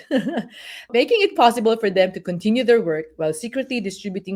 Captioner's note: laugh